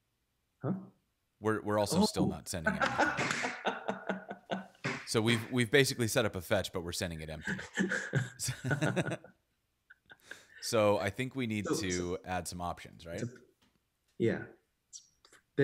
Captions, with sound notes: - Huh? - We're also still not sending anything. (laughing) So we've basically set up a fetch, but we're sending it empty. (laughing) So I think we need to add some options, right? - Yeah.